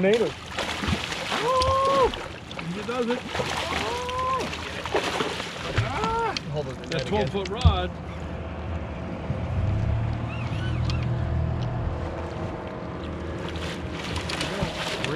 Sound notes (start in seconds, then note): 0.0 fish splashing; 10.7 reel cranking; 11.7 boat engine idling; 14.9 fish splashing